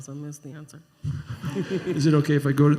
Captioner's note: laughter